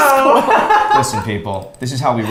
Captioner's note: laughs